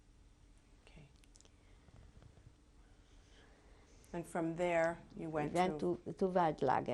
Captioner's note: pauses for 3 seconds